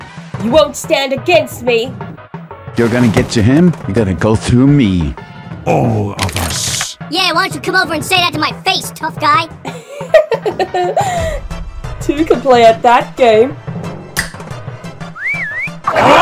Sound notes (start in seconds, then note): 9.6 evil laughter; 14.2 snaps fingers; 15.1 call out whistle